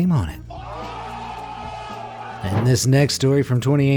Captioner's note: crowd cheering